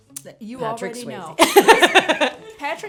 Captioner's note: Zelda laughs